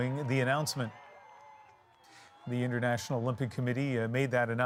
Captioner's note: cheers and Applause